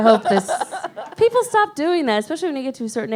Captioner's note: laughs